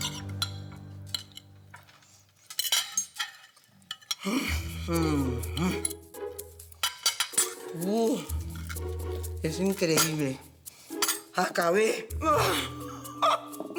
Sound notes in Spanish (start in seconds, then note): 4.2 Sonidos mientras come